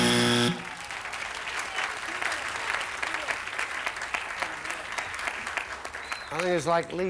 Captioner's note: audience applauding